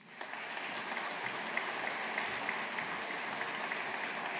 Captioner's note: audience applauding